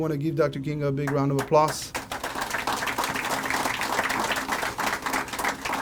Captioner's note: crowd applauding